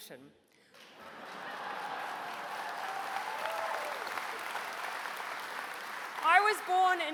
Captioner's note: applause